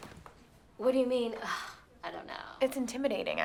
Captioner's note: sighs